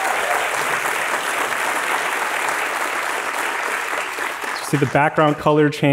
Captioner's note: applause